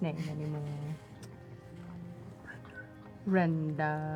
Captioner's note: whispers